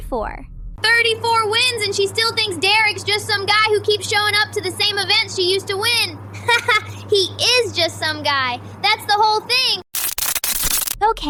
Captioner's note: laughs